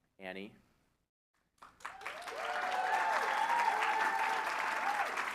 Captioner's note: applause